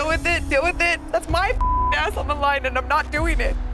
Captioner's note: beep